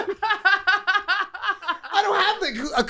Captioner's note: laughing